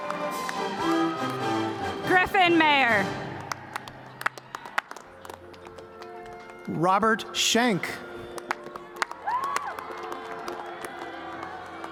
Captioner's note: cheers and applause